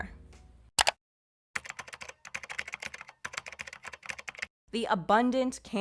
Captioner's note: computer keyboard typing